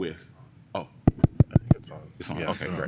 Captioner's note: taps mic